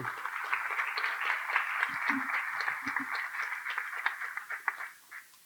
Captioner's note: applause